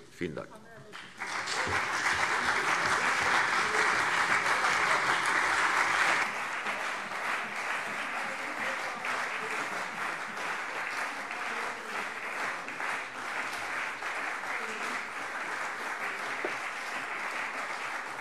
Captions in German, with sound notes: - Vielen Dank. [Anhaltender lebhafter Beifall CDU und BÜNDNIS 90/DIE GRÜNEN]